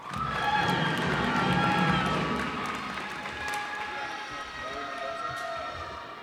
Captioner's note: cheers and applause